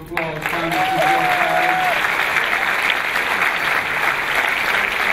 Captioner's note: clapping